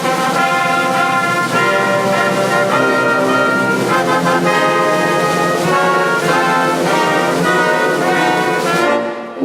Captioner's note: applause